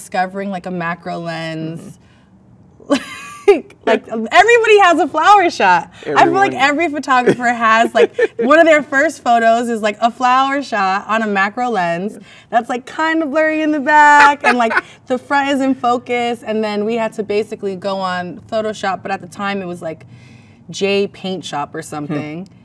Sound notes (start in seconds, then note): 2.9 laughs; 7.0 laughs; 14.0 man laughs